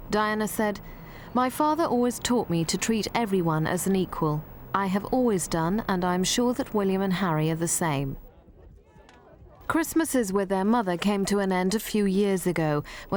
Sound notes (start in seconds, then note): none